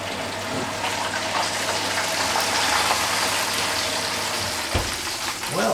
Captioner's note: fat and juices sizzlin